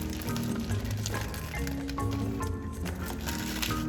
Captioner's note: food crunching